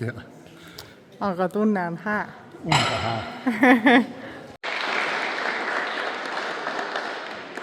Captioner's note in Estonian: aplaus